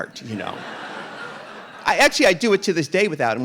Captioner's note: audience laughing